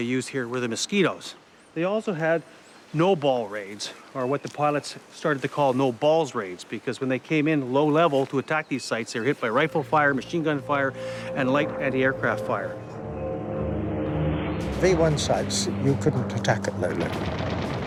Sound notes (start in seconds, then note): 11.6 jet engine roaring; 17.0 gun firing